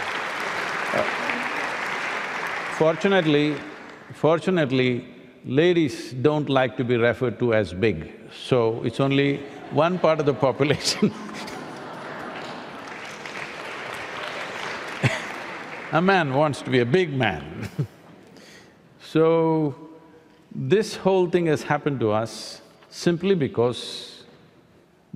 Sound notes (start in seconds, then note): 0.0 laughter/Applause; 13.5 laughter/Applause